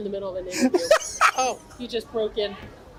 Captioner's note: laughs